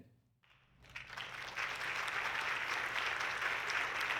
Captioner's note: audience clapping